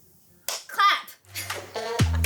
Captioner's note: laughing; upbeat music; clapping